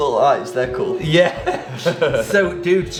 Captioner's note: laughs